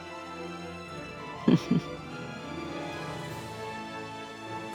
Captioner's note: chuckle